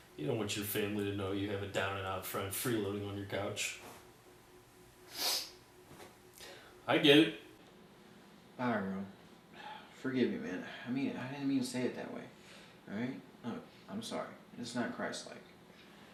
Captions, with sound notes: You don't want your family knowning you have a down and out friend freeloading on your couch [sniffling] I get it! Bogroe forgive me man. I didn't mean to say it that way Alright look I'm sorry it's not christlike